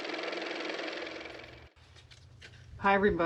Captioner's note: car notor